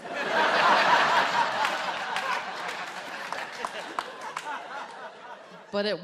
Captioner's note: audience laughs and applauds